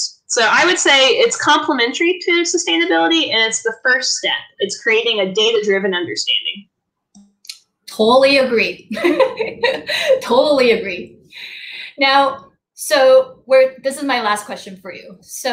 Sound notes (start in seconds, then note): 8.8 laughs